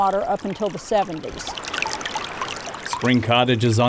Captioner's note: spring bubbling